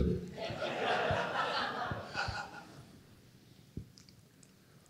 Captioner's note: laughter